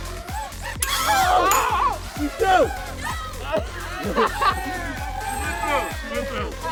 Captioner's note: all cheering; drone flying